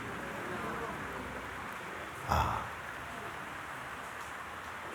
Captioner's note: voices in audience